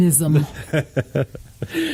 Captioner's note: laughs